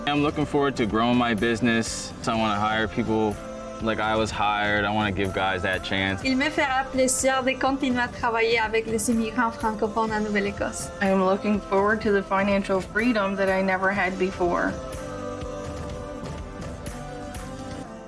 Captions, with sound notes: - I'm looking forward to growing my business. So I want to hire people like I was hired. I want to give guys that chance. (speaking in foreign language) - I am looking forward to the financial freedom that I never had before. (bright music)